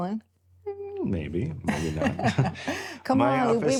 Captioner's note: both laughing